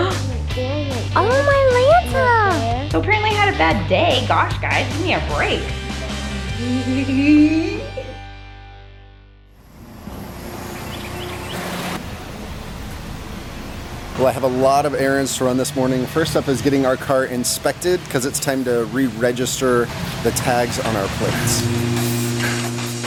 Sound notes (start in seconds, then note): 0.0 gasps; 10.1 car motoring; 22.8 industrial music